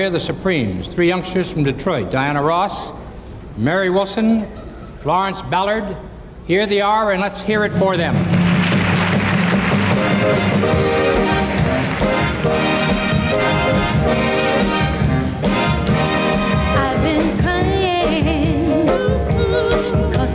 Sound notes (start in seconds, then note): 8.2 audience applauding; 8.5 upbeat music